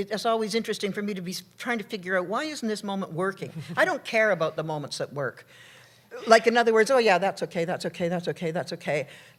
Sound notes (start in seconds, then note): 4.1 laughter